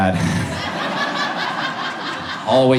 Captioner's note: audience laughs